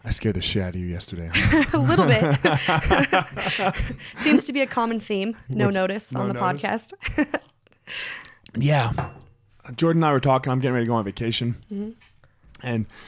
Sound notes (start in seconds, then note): 1.3 both laugh; 7.3 laughs